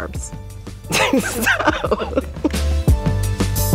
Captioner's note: laughs